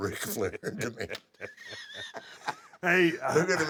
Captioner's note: laugh